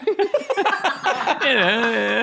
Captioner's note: Jacksepticeye and Courtney laughing